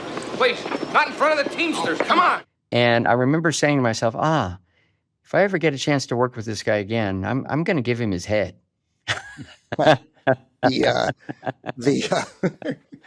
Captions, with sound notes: Wait, not in front of the teamsters. Come on. And I remember saying to myself, "Ah, if I ever get a chance to work with this guy again, I'm going to give him his head." (BOTH CHUCKLE) The, uh... (CHUCKLES)